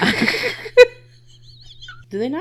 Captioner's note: laughing